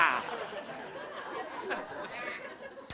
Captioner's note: laughter